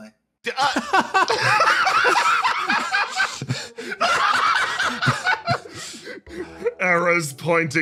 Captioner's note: laughs